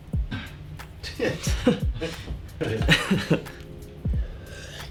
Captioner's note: soft music; laughs; soft music